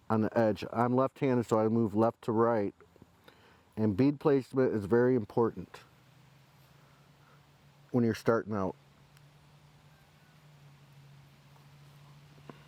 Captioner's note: silence